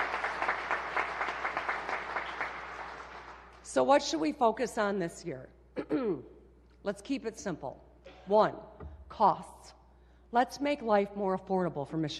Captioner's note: applause